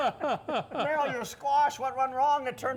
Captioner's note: guys laughing